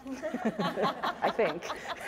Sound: panelists laughing

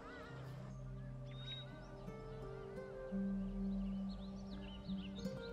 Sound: birds chirping

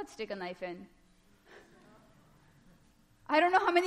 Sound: laughter

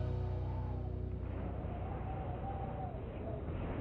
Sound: wind whistles

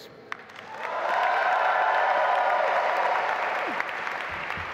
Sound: audience applauding

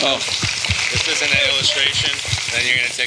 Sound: audience applauding

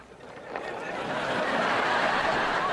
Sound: laughing

